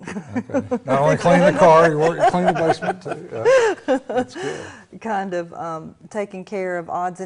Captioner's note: laughter